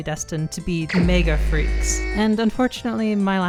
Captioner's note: ominous electronic noise